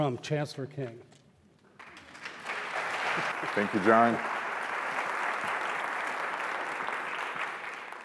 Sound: applause

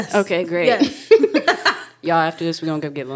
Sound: speakers laughing

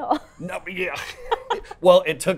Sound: laughs

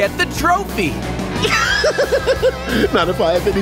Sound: laughing

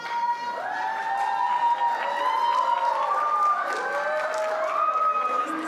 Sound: cheers

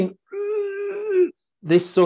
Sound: groaning

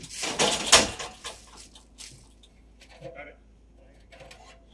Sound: metal crashing

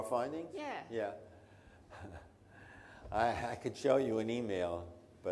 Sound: laughs

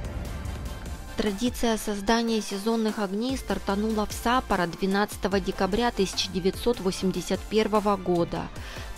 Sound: voiceover

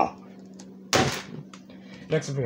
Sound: thud

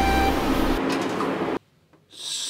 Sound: click

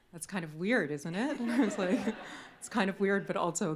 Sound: everyone chuckles

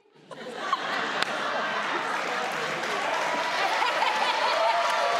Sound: crowd laughs and cheers

